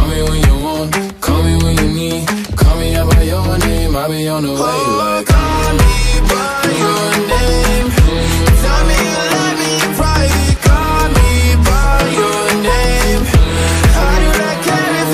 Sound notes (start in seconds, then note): 5.2 mmm, mmm, mmm; 7.3 mmm, mmm, mmm; 10.3 mmm, mmm, mmm; 12.4 mmm, mmm, mmm